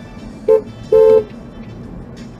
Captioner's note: dashcam driver honks